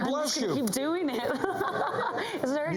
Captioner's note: laughter